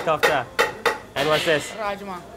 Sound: speaks in foreign language

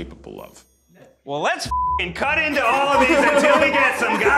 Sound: beeps

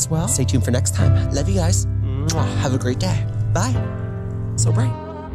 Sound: kiss; chill music

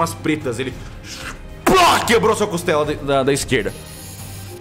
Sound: punching sound

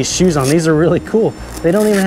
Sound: velcro strap rattles

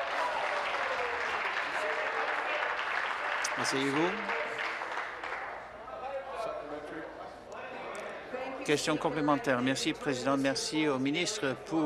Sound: applause

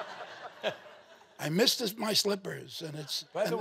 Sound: audience chuckling

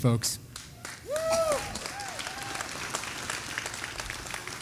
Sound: audience applauding

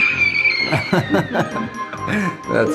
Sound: screaming

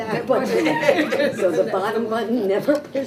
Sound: all chuckle

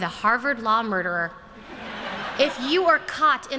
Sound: laughter

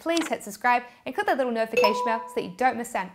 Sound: chime tinkling

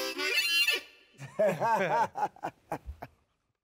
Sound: laughing

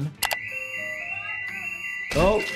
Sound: alarm blares

